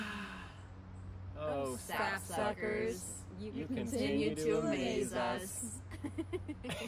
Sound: long sigh

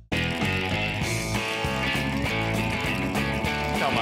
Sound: water hose running

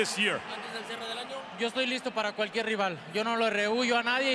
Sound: speaking Spanish

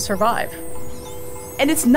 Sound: dolphin calls

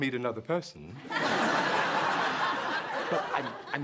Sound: laughter

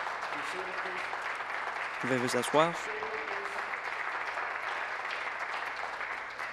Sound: applause

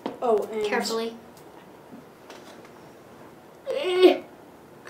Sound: groan

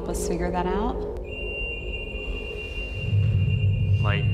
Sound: beeping

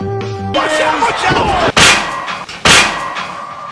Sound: bonk

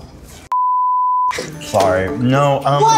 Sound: beep

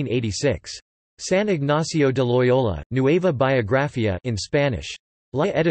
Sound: in Spanish

